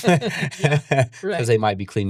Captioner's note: laughing